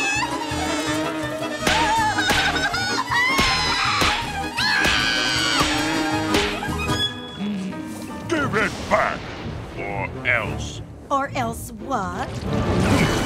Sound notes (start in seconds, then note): 0.3 buzzing; 1.6 screaming